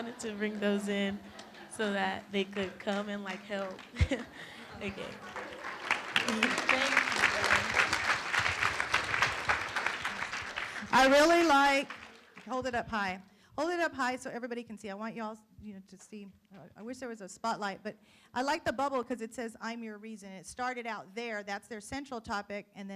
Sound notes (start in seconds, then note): 0.0 room laughs; 5.9 room applauds